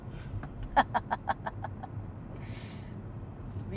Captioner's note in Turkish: kahkaha